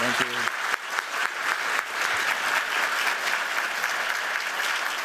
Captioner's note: applause